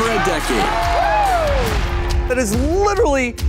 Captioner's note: audience applauding